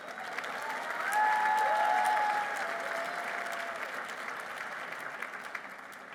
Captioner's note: applause